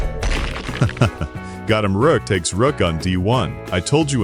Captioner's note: laugh